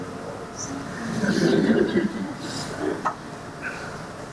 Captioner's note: laughter